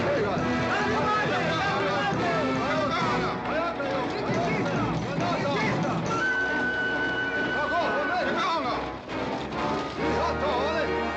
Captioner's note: dramatic music; yelling in Comanche